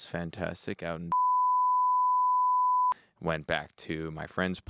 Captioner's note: beep